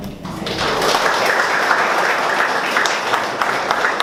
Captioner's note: audience applauds